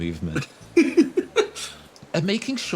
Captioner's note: tiny Laugh